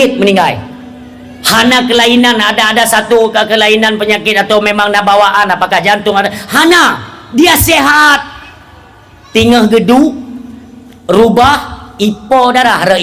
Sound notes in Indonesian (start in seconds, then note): 8.4 berteriak